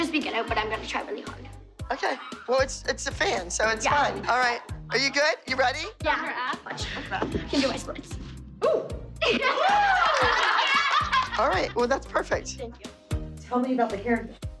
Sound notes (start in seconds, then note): 9.4 all cheering